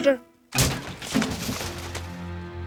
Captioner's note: loud crash